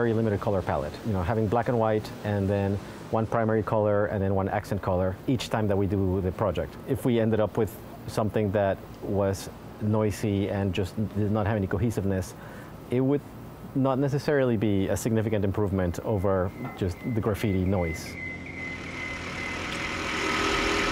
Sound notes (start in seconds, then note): 14.4 high-pitched beeping; 16.2 drill rumbling loudly